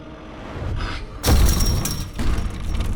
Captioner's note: banging on door